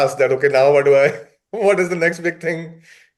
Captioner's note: laughs